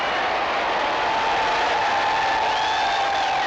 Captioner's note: cheering